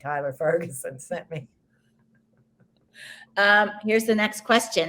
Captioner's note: both laughs